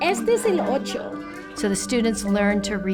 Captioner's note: speaking in foreign language